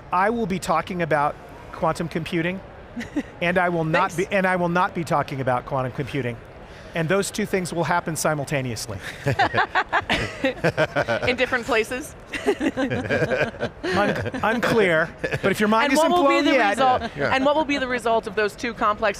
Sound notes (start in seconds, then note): 9.0 panelists laughing